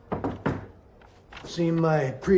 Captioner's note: knocking